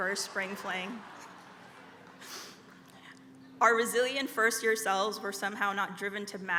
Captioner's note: laugh